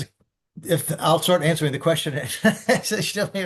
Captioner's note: laughs